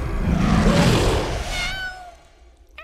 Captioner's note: growling continues; meowing